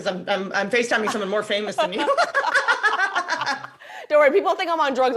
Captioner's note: both laugh